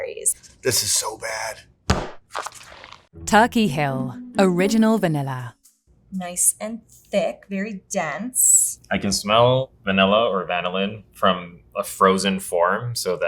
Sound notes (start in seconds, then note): 1.9 tub thudding